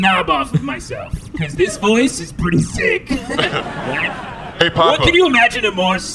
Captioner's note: chuckles awkwardly